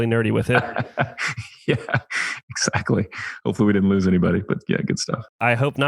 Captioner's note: laughs